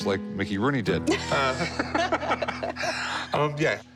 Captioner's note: laughter